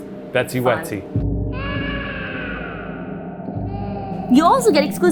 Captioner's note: baby cries